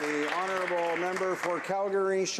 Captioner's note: some applause